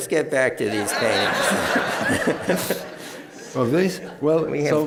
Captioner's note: laughter